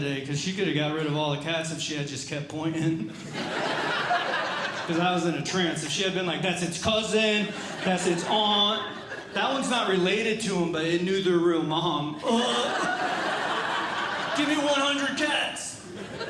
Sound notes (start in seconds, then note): 2.8 audience Laughing; 12.1 audience Laughing; 12.2 groans; 15.7 audience Laughing